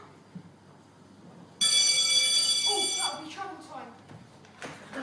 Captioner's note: school bell